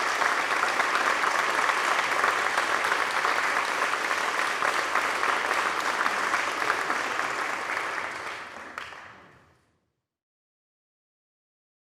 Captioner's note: applause